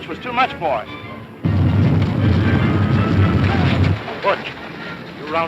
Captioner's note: cows stampeding